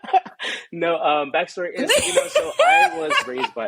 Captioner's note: laughs